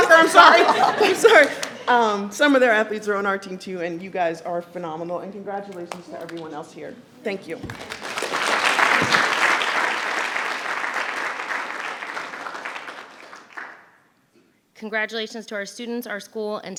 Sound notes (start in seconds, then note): 7.6 everyone applauding